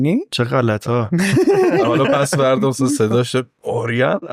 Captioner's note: laughs